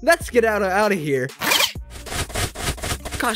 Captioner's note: zip!